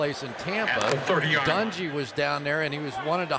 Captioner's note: pa announcement